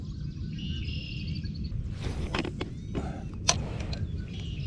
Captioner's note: birds chirping